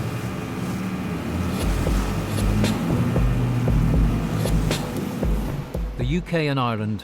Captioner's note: motor whirring; tense music